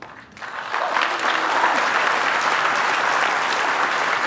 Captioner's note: applause